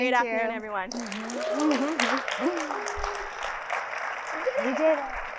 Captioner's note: audience clapping